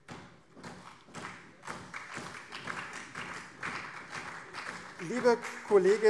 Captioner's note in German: Beifall CDU, SPD und vereinzelt BÜNDNIS 90/DIE GRÜNEN